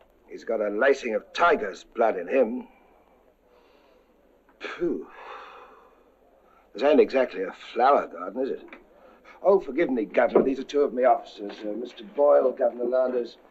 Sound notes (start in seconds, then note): 4.7 inhales; 5.0 exhales